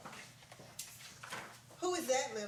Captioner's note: page rustling